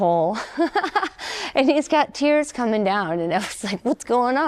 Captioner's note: laughter